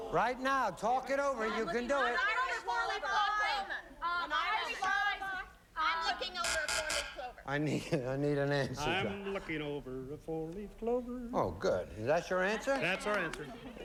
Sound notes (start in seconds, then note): 2.2 all chattering